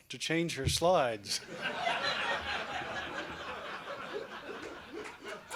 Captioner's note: laughter